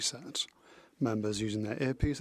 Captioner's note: speaking French